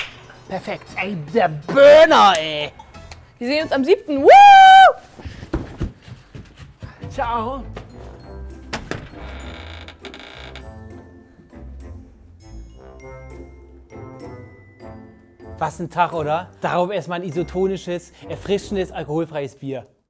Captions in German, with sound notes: Perfekt. - Ey, der Burner, ey. Wir sehen uns am 7., whooo! (Fußgetrappel) Ciao. (Knarzen, muntere Klänge) Was ein Tag, oder? Darauf erst mal ein isotonisches, erfrischendes, alkoholfreies Bier.